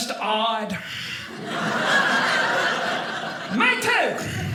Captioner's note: audience laughing